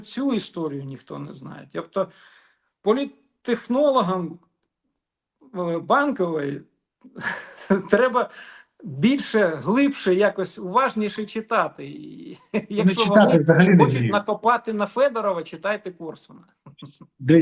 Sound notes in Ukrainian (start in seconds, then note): 7.1 сміх